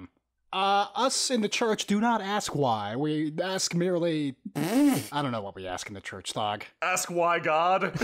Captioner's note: fart noise